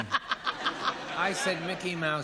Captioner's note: laughs